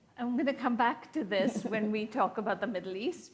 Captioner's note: chuckles